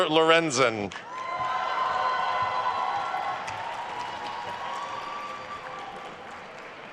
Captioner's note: attendees cheering and applauding